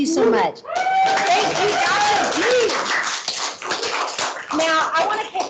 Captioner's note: clapping and cheering